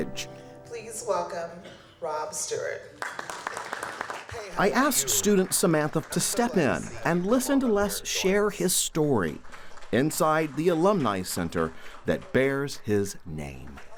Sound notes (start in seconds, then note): 2.9 applause